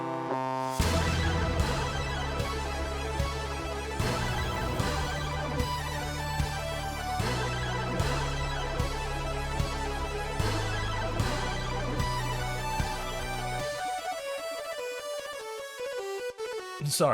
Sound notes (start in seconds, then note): 0.0 goofy music; 0.9 explosion